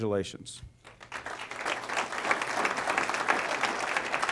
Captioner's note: applause